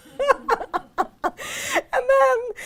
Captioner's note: audience laughs; laughs